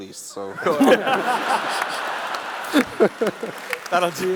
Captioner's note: laughs